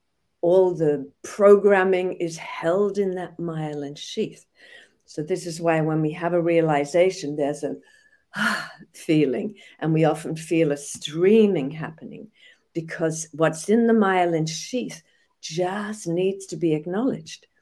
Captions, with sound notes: all the programming is held in that myelin sheath. So this is why when we have a realization, there's a (exhales in relieve) feeling and we often feel a streaming happening, because what's in the myelin sheath just needs to be acknowledged.